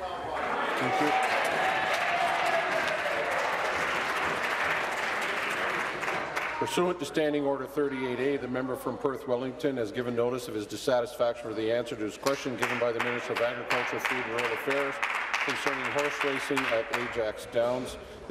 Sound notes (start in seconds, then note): 4.8 applause